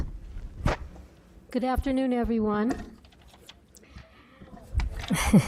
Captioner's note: laughs